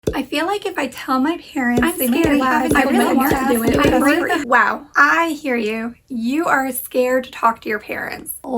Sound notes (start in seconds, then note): 1.9 murmurs